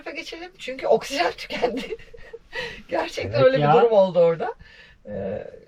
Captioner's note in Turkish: kahkaha